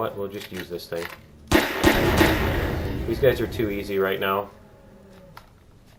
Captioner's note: gunfire; explosion; laughs